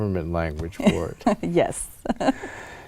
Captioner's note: laughs